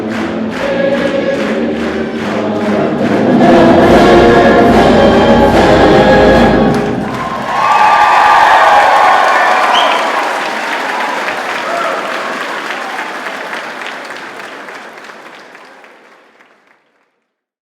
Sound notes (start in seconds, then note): 7.3 applause; 10.0 cheering